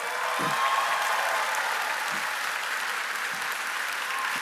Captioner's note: applause